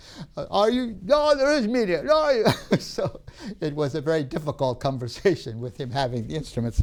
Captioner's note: laughs